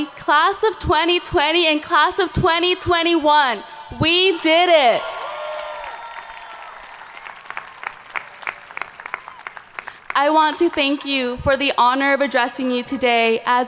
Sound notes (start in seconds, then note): 4.0 people cheering; 5.1 hands clapping